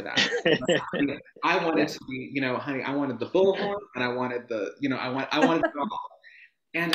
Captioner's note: laughs